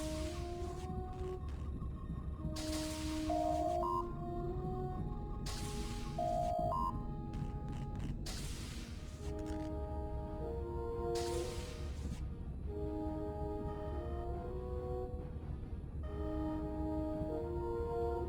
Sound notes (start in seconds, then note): 6.7 electronic sounds